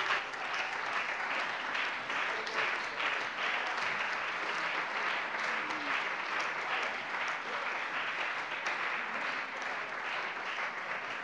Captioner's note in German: Beifall bei der CDU und dem BÜNDNIS 90/DIE GRÜNEN